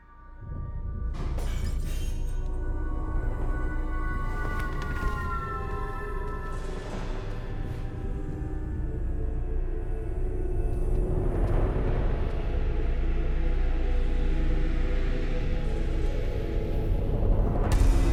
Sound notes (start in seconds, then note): 1.3 objects clattering and glass shattering